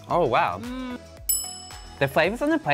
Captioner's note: bell dings